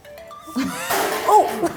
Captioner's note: crash